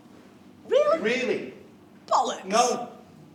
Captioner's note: none